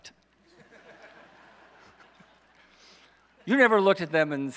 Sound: audience laughs

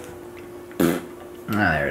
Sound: farts

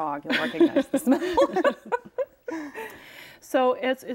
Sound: all laugh

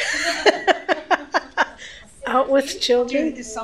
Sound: laughter

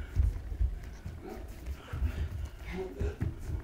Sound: grunting; grunts

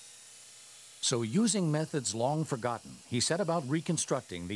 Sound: voiceover

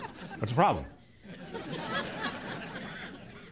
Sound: laughter

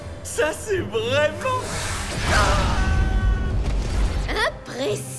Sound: exclaims

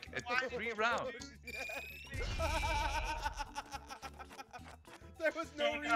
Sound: laugh

